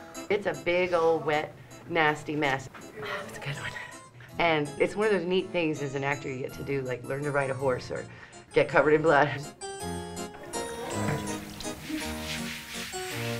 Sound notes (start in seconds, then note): 2.9 whispers; 9.9 eerie organ music